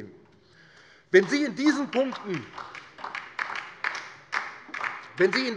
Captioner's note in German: Beifall DIE LINKE